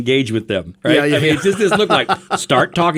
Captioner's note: laughing